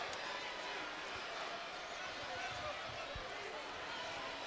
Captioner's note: crowd murmuring